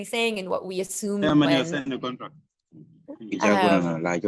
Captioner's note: non-english speech